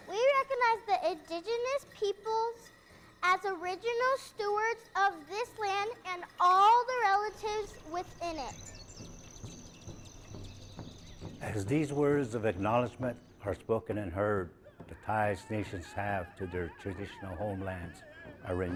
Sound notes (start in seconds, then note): 8.5 drums thumping; 8.7 birds chirping